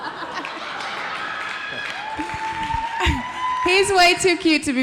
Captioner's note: audience laughing; audience applauds; audience cheering